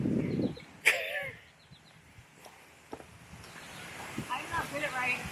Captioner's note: laughing